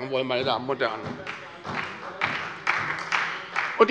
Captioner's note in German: Beifall bei Abgeordneten der SPD - Zurufe von der LINKEN